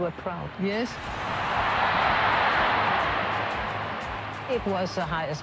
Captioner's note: crowd cheers